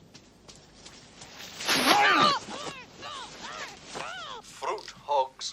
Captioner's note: scuffle, muted screams